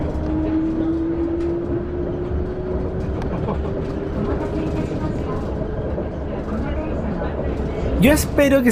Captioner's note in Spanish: sonido del tren Yurikamome Serie 7300, N° 44